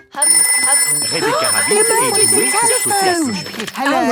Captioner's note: phone ringing, gasp